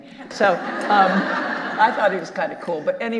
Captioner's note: audience laughing